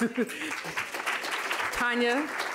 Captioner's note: applause